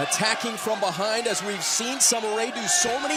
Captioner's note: crowd cheering